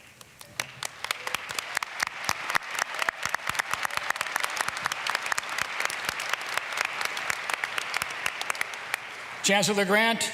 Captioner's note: applause